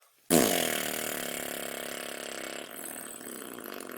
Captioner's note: blowing raspberries